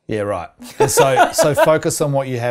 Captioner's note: laughing